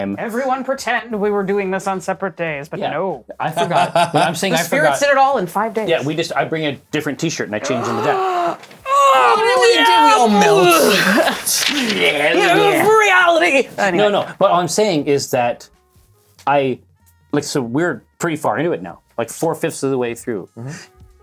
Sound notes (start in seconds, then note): 3.5 laughs; 7.6 gasps, screams; 11.3 wretched noises; 12.8 howling